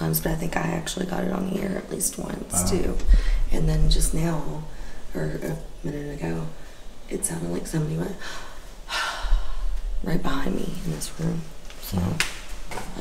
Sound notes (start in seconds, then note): 8.4 breath in and out